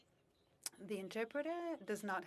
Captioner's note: speaking French